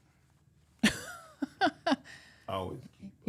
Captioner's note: laughs